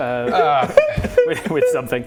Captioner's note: cry.wav